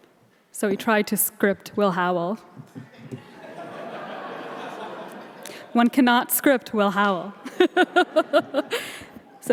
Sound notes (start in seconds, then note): 2.7 audience laughing; 7.4 laughing